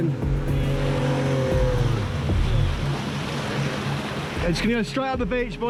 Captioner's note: boat engine revving